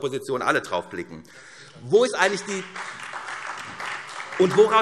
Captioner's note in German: Beifall